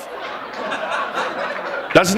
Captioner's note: laughter